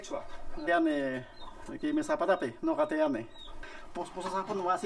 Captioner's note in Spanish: Speaks quechua